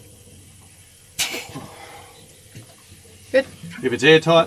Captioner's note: puff